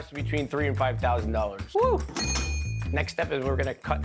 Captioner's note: dinging